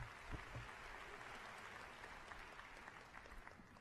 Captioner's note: cheers and applause